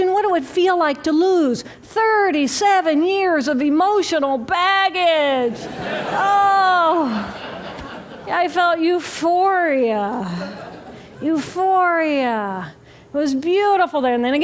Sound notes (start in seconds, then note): 7.0 laughter